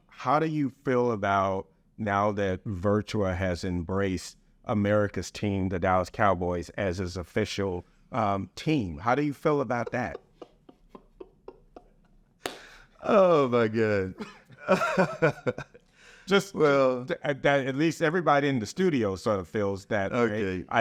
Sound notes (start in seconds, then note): 9.4 laughing; 12.4 clapping; 14.0 laughing